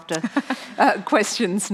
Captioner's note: laughing